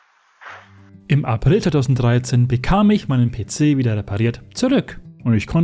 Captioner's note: voiceover